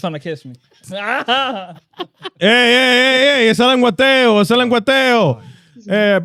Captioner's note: laughing; speaking In Foreign Language